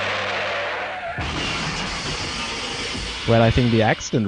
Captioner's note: sound of car crash